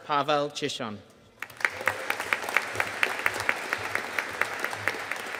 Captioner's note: audience applauding